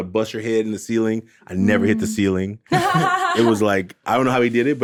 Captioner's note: laughs